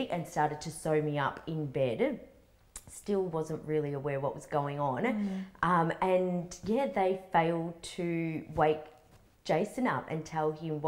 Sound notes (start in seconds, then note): none